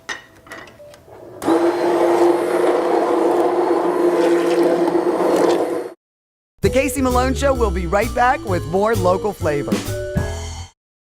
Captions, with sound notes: (blender whirring) The Casey Malone Show will be right back with more local flavor.